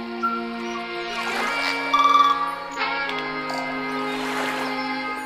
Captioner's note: birds chirping